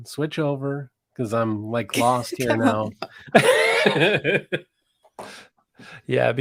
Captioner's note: laughing